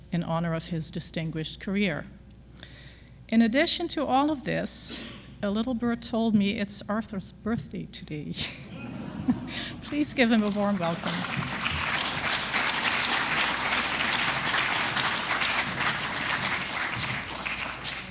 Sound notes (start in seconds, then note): 8.6 audience laughs; 11.3 audience applause